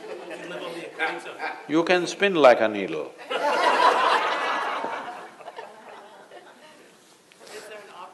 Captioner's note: laughter